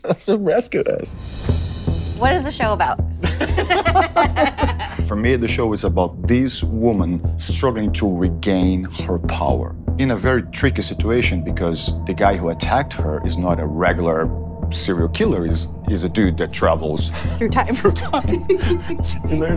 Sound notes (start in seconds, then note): 3.2 laughter